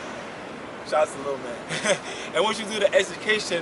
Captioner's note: laughs